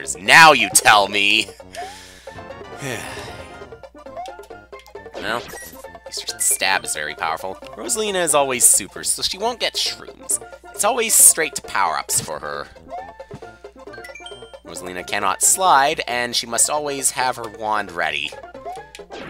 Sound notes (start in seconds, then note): 1.7 breathing